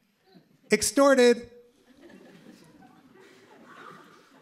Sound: laughter

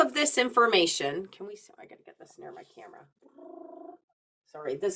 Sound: trills tongue

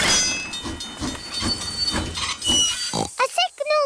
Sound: tinging; oinks

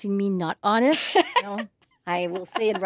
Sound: laughs

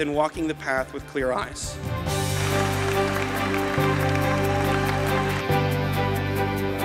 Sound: applause

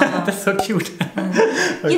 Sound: laughter

